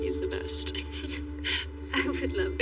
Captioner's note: Layla chuckleles